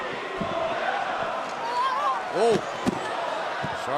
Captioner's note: fans chanting